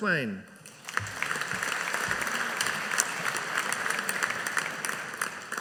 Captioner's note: audience applauding